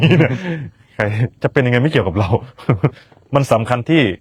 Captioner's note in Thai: เสียงหัวเราะ